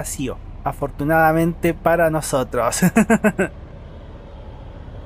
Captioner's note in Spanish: risas